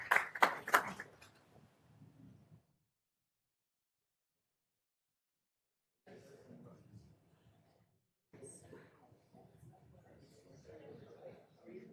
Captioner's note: applause